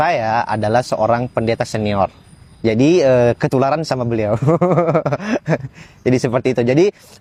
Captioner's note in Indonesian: tertawa